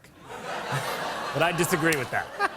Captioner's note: laughter; laughs